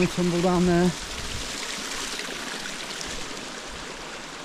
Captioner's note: water splashing